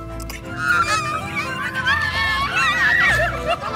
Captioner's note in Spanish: Risas y gritos